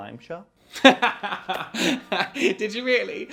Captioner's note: laughing